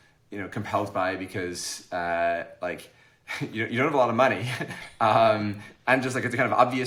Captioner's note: chuckles